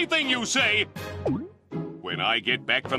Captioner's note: Timmy gulping